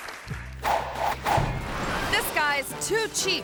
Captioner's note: logo whooshing